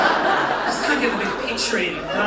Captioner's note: audience laughing